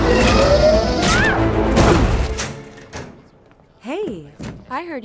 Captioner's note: weapons whacking; Eve shrieks